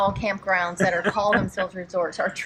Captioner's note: laughs